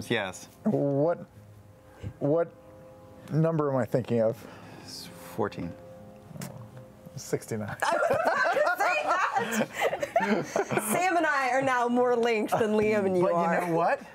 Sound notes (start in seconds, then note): 7.8 laughter